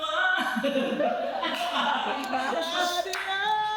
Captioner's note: out of tune; laughs